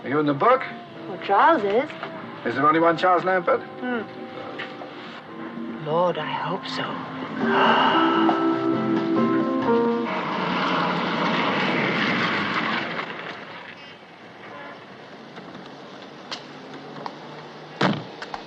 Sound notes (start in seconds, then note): 7.4 gasps